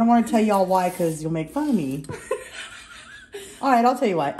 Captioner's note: laughs